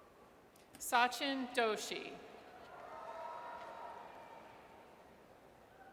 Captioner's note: audience cheers